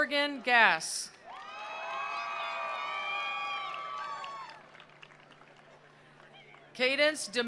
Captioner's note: attendees cheering; attendees applauding